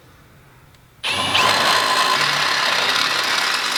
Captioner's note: drilling